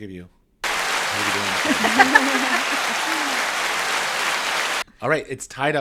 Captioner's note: round of Applause plays